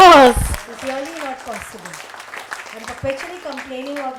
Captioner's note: audience applauding